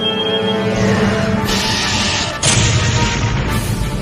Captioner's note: phaser and explosions